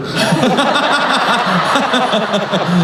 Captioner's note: laughing